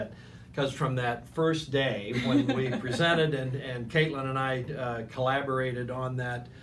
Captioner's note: laughing